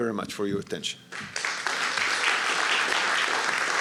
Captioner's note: applause